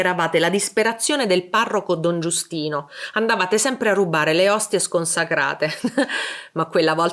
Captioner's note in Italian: risate